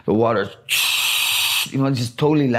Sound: man hissing

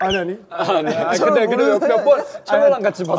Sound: haha

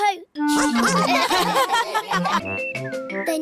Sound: all laugh

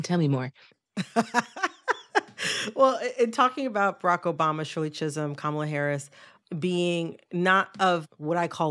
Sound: laughter

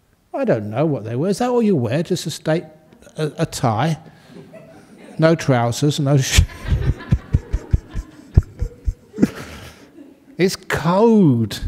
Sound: laughter

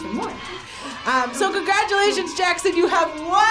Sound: crowd cheers

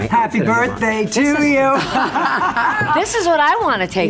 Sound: Luann and Kelly laughing

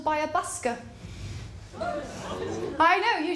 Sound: audience gasps

